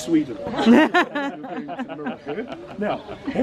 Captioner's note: group laughs